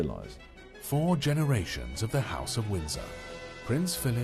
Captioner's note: voiceover